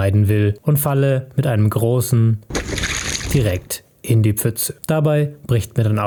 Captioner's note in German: platsch